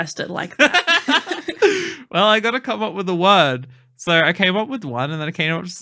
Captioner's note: laughing